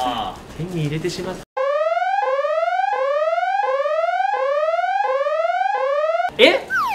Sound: emergency Alert

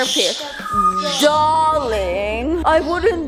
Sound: dramatically

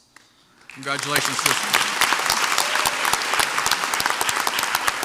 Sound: crowd applauds

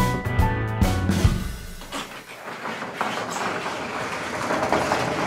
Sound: door rattling

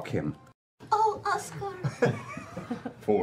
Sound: laughing

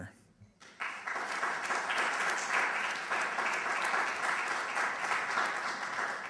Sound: applause

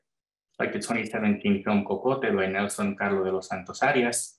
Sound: non-english speech

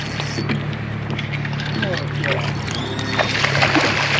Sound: reel cranking; boat engine idling

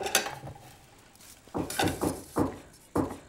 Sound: knock at door

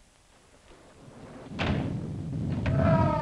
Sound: thunder rumbling; Andy screams

